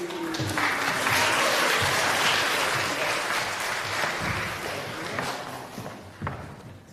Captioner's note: applause